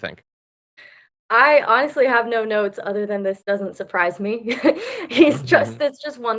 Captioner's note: laugh